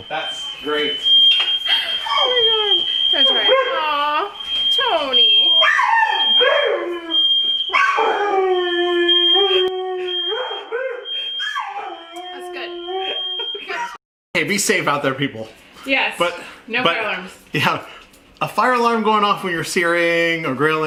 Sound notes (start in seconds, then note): 6.5 fire alarms going off; 7.6 hear dogs crying and howling